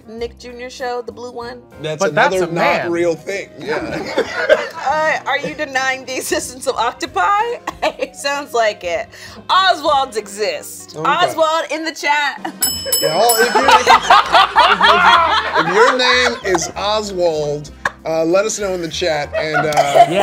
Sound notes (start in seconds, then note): 3.6 people laughing; 12.6 bell dinging; 13.1 people laughing